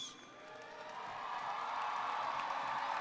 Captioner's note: applause